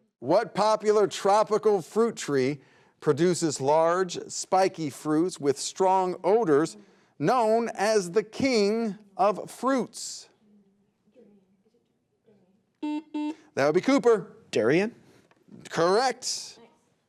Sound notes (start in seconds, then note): 12.8 buzzer beeps